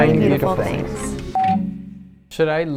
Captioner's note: bar tone beeping